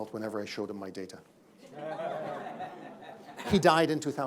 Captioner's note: laughter